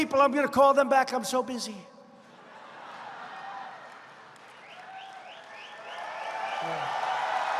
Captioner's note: laughter and applause